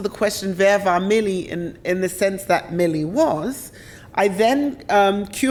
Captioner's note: speaks German